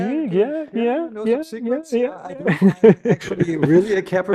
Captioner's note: chuckles